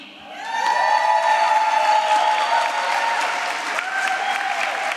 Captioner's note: applause